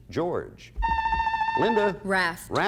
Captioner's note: buzzer sounds